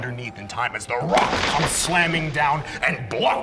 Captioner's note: rock crumbling